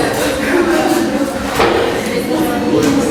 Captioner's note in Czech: students are twittering